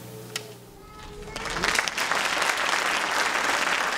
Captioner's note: applause